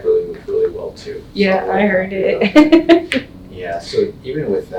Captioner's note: laughs